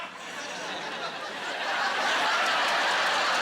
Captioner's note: laughing